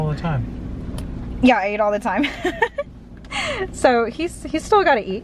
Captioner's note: laughs